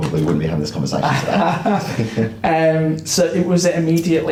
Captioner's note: both laugh